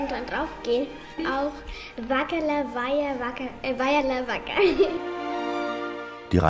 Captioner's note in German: Lachen